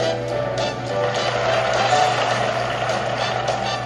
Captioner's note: audience clapping